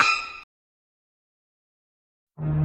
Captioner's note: silence